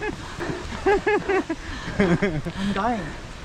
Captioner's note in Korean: 자존심 상하는 웃음 소리